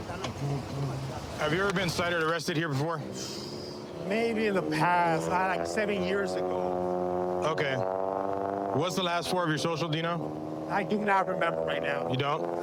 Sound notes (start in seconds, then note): 3.2 exhales sharply